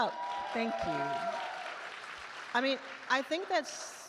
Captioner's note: attendees cheer and applaud